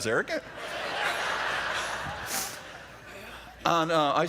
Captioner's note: laughter